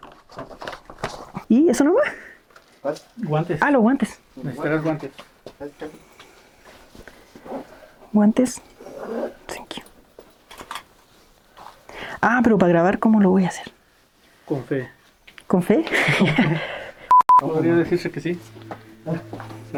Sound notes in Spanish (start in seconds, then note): 15.8 Risas